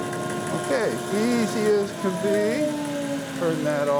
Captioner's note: bandsaw roaring